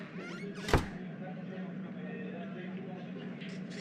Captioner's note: door opens and closes